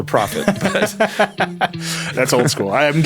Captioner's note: laughing